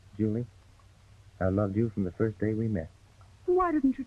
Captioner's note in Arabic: none